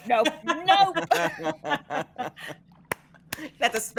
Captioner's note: all laughing